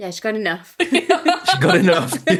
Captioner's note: laughing